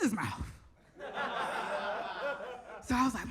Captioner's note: audience laughs